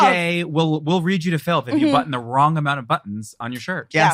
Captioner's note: laughs